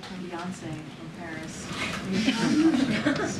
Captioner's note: laughter